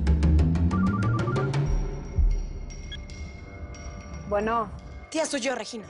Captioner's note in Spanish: Suena el celular